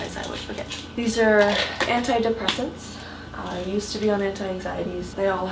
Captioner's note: none